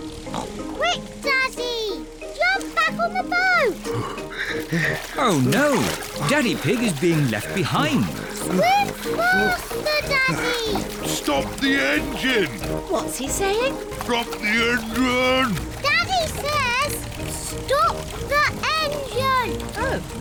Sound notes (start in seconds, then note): 3.8 panting; 14.1 splutters